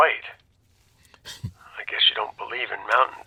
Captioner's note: chuckles